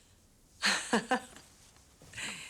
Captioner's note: laughing